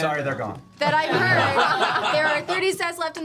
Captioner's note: laughter